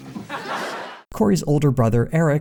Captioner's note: audience laughter